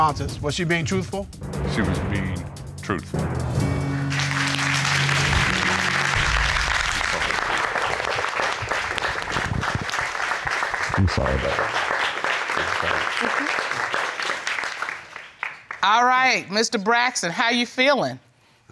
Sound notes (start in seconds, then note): 4.1 audience applauding